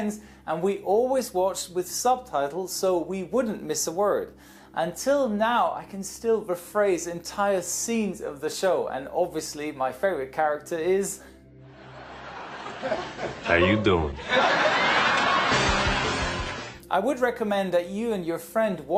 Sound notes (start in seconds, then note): 11.7 laugh Track; 14.4 laugh Track intensifies